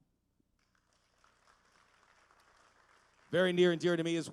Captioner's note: applause